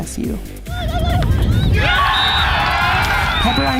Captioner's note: whistles blowing; cheers and clapping